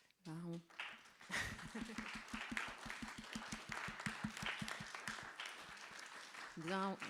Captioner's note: applauses